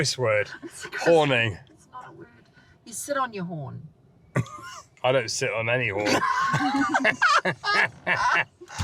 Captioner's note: laughter